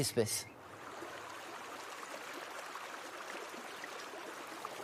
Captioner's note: water murmuring